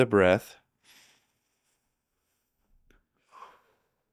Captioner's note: breathing deeply